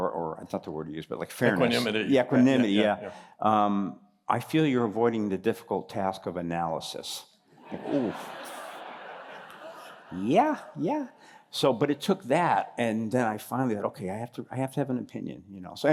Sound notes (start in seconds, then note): 7.6 laughter